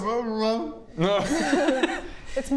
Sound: laughs

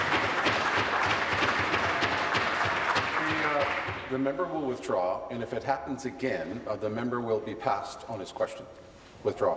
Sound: applause

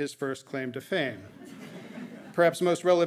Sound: audience laughing

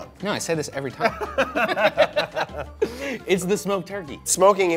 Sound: both laughing

